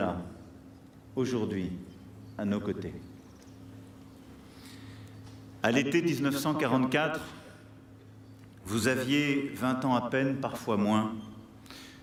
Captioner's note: speaking french